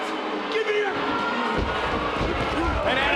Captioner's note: crowd boos